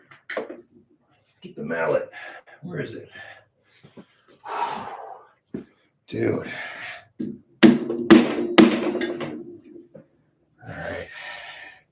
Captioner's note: sighs